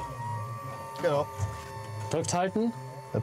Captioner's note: whirring